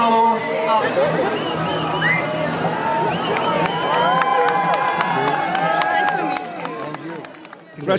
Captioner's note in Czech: cheering, greetings